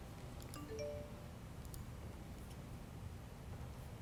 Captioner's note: computer beeps